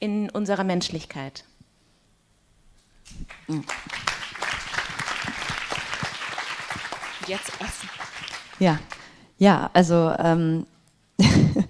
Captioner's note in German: applaus